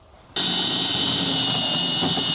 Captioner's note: motor whirring